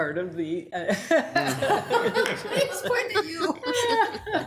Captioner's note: laugh